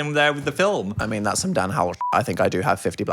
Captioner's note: beep